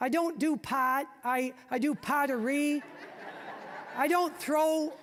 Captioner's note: audience laughing